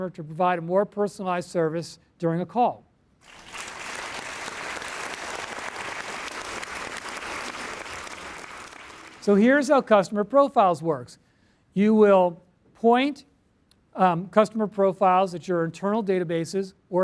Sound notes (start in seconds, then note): 3.2 applause